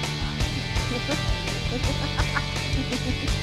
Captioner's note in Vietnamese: cười khả ố